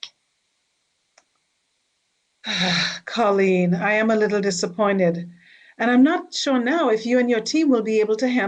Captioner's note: sighing